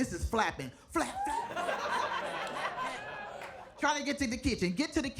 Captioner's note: audience laughing